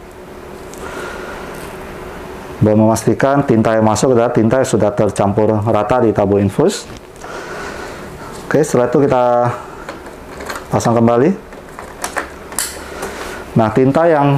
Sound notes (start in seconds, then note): 0.7 inhale; 7.2 inhale; 11.5 installing damper sound